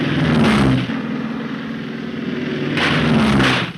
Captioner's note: plane buzzing; gun firing